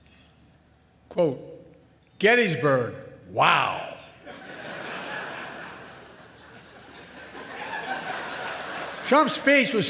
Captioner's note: laughter